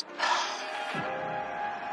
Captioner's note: sighs